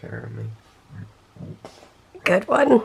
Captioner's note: burps